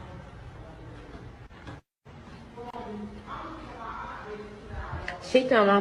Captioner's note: friends chatting